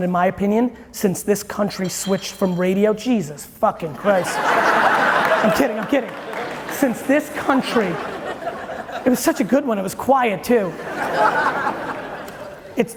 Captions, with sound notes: in my opinion, since this country switched from radio. (bottle rolling across the floor) Jesus fucking Christ! (audience laughing) I'm kidding, I'm kidding! Since this country, and it was such a good one, it was quiet too. (audience laughing)